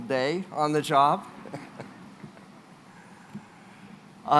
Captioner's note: laughs